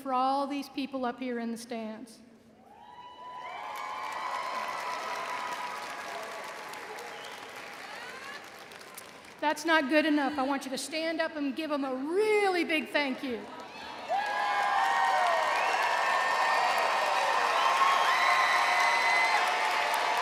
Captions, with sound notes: for all these people up here in the stands. (audience cheering) That's not good enough. I want you to stand up and give them a really big thank you. (audience cheering)